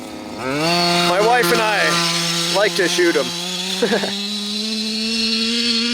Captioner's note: laughs